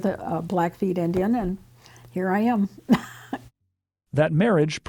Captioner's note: chuckles